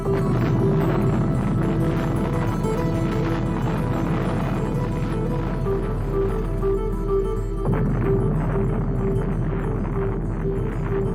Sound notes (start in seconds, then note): 0.6 gentle guitar music; 2.2 bombs exploding